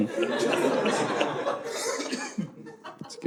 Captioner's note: audience laughing